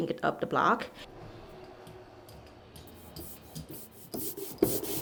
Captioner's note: paint roller swishing